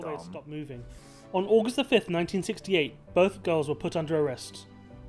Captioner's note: voice-over